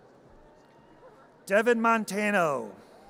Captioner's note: audience cheers